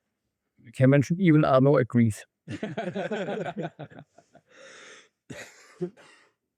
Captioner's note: laughs